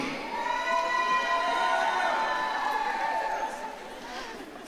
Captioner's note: audience cheering